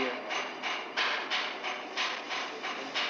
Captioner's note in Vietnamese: Tiếng gõ